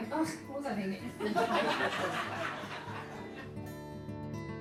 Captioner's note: laughing